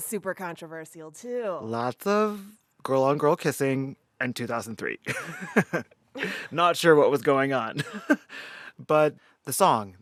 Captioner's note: laughter